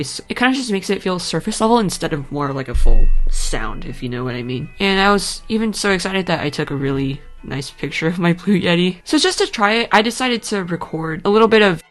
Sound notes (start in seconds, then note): 1.2 rumble